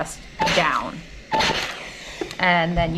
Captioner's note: steam hissing